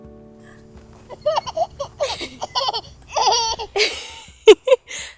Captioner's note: giggles; laughs